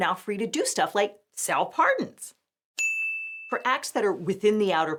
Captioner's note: bell dings